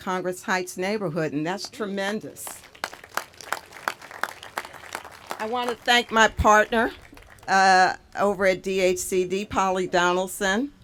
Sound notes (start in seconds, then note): 2.4 applause